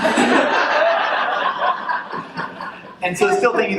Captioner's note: laughter